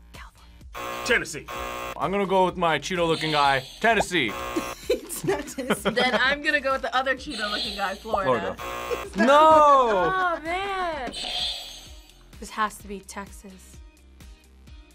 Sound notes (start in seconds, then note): 0.0 buzzer rings; 0.3 whispers; 0.7 buzzer; 3.8 laughs; 7.2 buzzer; 11.0 buzzer rings